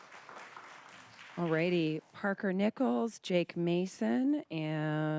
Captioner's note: applause